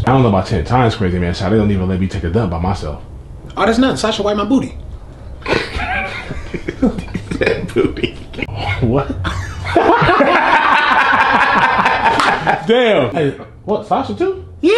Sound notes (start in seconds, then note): 5.4 laughs; 7.7 laughing; 9.7 both laugh